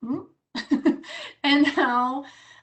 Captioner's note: laughs